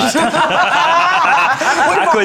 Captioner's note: group laughing